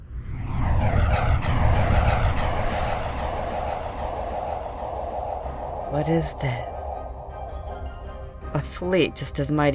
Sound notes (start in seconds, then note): 0.0 spaceships woosh in; 7.4 heroic music